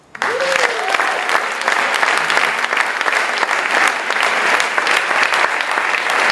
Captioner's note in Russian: Аплодисменты